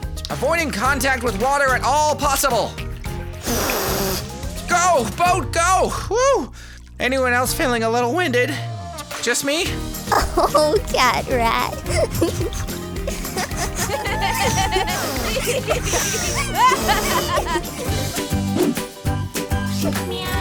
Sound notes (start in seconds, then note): 3.3 blows; 13.0 laughter; 17.7 pop music